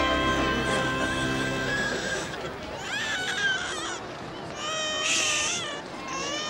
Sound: baby crying

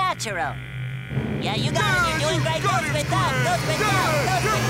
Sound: cheering

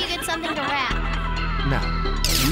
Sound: laughter

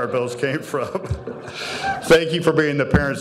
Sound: audience laughing

